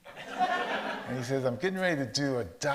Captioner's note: audience laughs